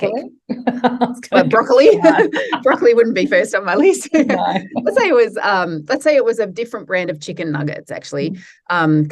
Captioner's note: laughs